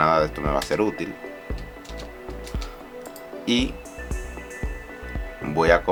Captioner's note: typing